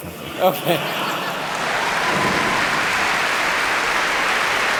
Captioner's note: laughter and applause